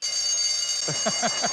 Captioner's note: bell ringing